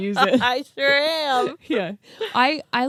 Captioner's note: laughs